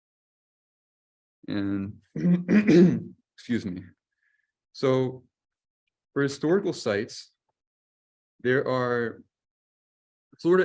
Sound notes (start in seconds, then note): 2.2 clears throat